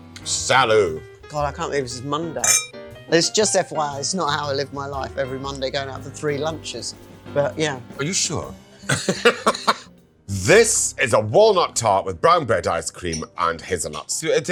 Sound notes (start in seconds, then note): 8.9 laughing